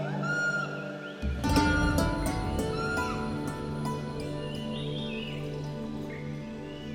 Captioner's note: gibbons calling